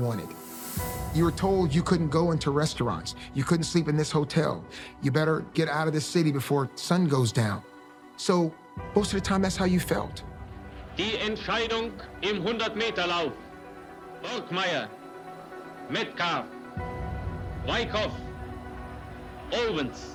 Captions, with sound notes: you were told you couldn't go into restaurants, you couldn't sleep in this hotel, you better get out of this city before the sun goes down. So most of the time, that's how you felt. -[ Speaking in German ] Borchmeyer, Metcalfe, Wykoff, Owens.